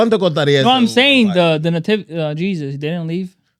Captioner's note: speaking In Foreign Language